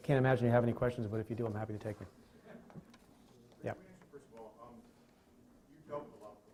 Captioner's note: chuckling